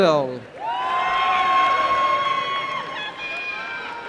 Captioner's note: applause and cheering